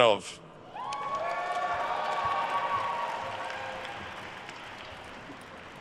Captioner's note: attendees cheering and applauding